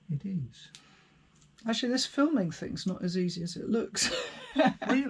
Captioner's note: laughter